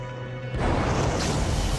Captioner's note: loud explosion